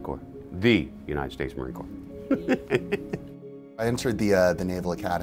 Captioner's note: laughs